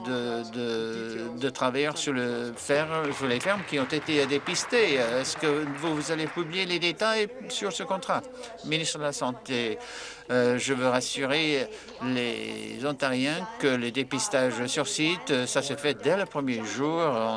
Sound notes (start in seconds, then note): 6.1 applause